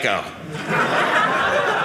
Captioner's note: audience laughing